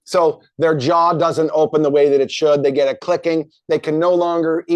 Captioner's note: none